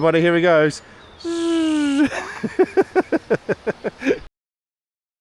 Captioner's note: laughter